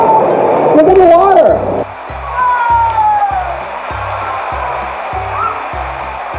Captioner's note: waterfall drowns out conversation